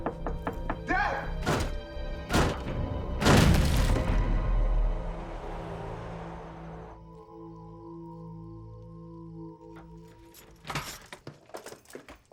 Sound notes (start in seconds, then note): 0.0 knocking on door; 0.0 pounding on door; 5.0 crickets chirping; 9.7 door opening